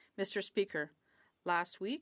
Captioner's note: speaking French